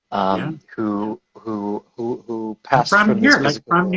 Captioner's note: stammers